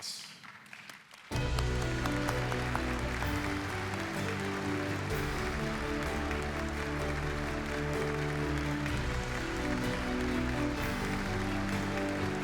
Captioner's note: applause